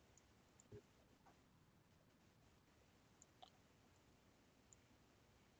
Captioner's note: mouse clicking